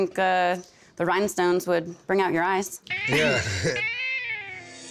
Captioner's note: chuckles